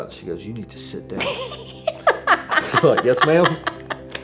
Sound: both laugh

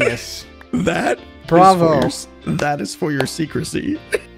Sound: claps

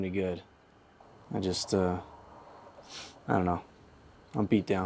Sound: sniffs

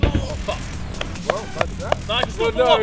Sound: clapping

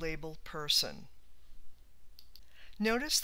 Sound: clicks

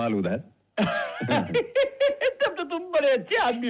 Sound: laughing

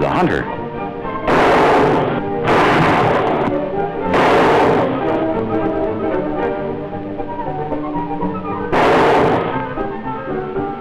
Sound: gunshots

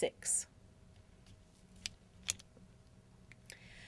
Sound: silence

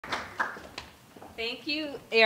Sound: applause

